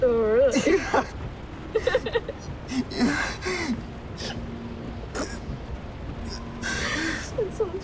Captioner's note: laughter